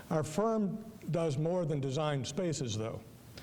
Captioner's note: none